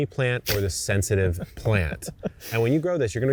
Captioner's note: chuckling